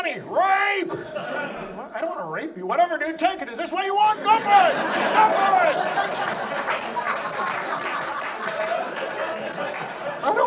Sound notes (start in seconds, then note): 0.9 audience laughs; 7.7 audience laughs